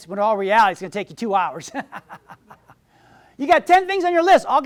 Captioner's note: laughs